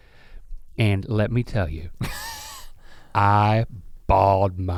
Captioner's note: Rhett chuckles